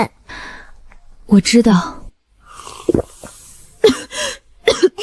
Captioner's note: coughs